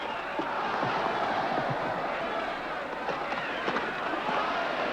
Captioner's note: crowd shouts "ole"